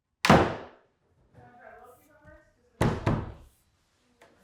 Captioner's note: wood thudding sharply